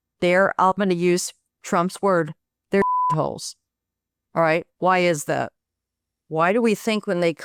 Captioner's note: beep